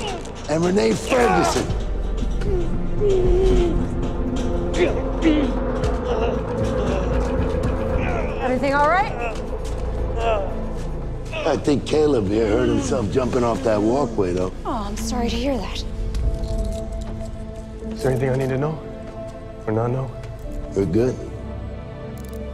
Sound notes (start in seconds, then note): 2.8 grunting